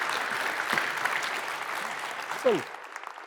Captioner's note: applause